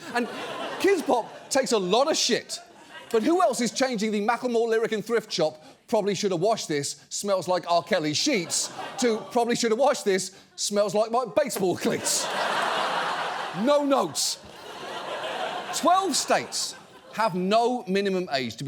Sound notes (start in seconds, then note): 11.5 audience laughs